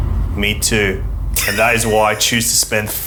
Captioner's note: laughs